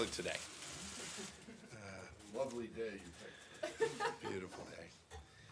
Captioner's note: laughter